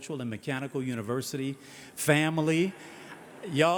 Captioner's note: audience hissing